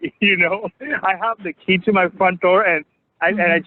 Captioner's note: laughs